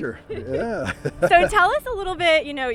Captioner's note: both chuckle